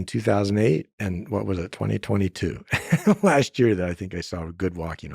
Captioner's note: laughs